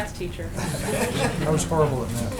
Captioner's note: laughter